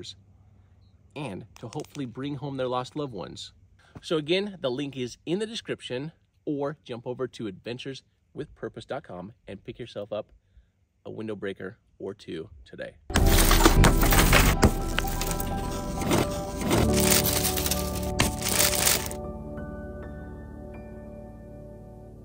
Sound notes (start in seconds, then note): 13.4 glass shattering